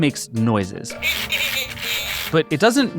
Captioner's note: Furby babbling